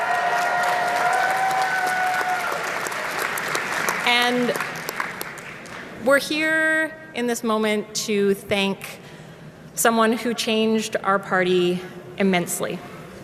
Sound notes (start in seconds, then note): 1.9 cheering